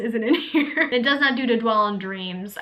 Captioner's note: laughs